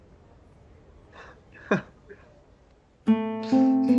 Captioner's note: robin laughs softly; slow, gentle music